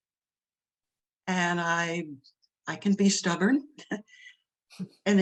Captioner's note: laughs